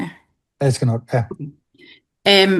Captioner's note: foreign language